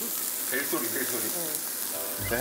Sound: A wonderful ringtone

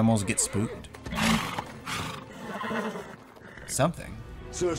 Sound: neighs

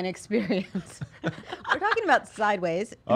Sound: laughter

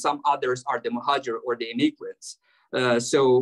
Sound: speaking arabic

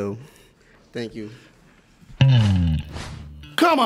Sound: chuckles

